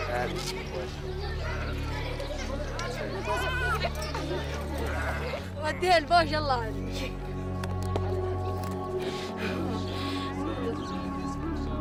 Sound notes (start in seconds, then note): 0.0 kids and sheep noises; 5.3 Iraqi woman speaks in Arabic